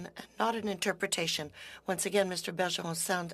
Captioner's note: speaking French